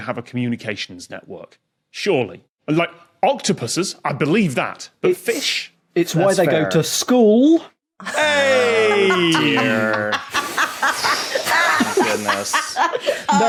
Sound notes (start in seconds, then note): 8.0 laughs heartily